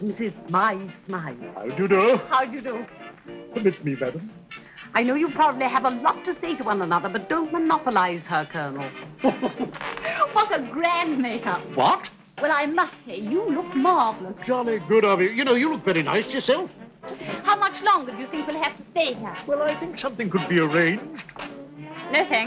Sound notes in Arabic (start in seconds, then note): 9.2 يضحك العقيد; 9.2 يضحك